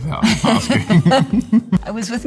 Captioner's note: both laughing